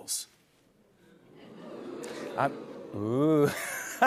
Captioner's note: audience oohs; laughter